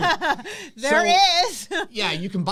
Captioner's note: laughs